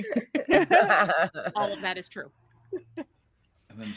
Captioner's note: all laughing